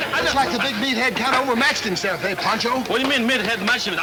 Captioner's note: speaking Spanish